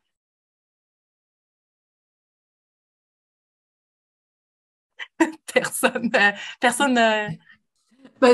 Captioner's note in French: silence